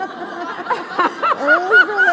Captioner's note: laughs